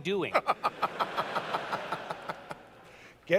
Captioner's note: laughter